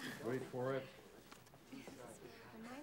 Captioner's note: students chattering